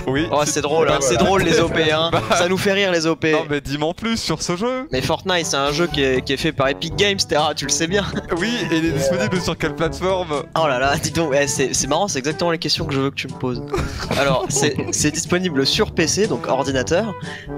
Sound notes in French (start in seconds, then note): 13.7 rires